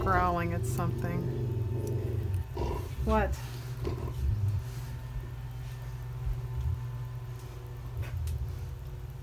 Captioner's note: dog growling